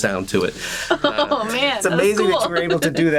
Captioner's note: chuckles